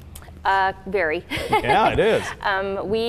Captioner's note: laughs